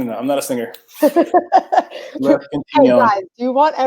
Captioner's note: laughs